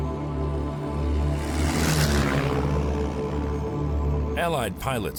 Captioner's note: uncanny music; planes roaring